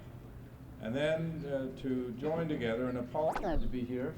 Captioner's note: camera noise